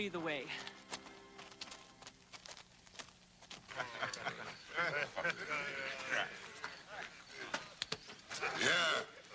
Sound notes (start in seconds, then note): 3.6 men laughing